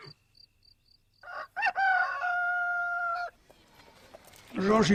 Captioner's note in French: Chants des grillons, hennissements; Chant du coq